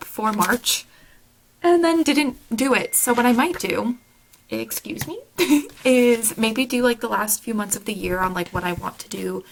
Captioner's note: phone ding